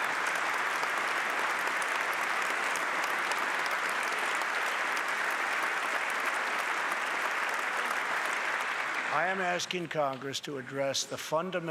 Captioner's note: applause